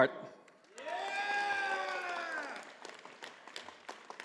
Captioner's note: audience applauding